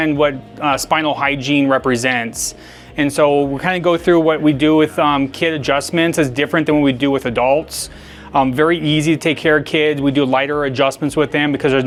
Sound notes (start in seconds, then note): none